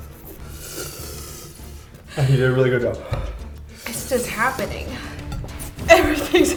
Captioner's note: sucks in